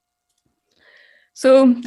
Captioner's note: mouse clicking